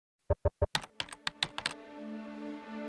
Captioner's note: typing sounds